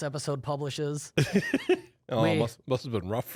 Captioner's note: laughs